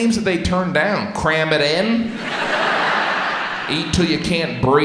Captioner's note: audience laughs